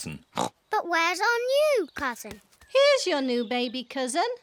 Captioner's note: oinks